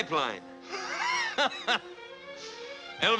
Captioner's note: laughs